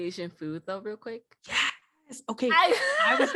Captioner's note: laughter